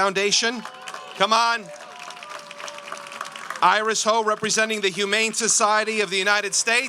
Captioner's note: applause